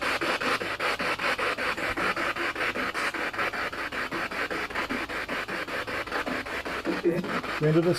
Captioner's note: radio noise from the spirit box